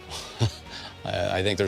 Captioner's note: man chuckling